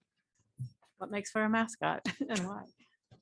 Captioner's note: laughter